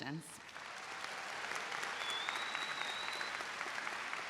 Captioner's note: audience applauds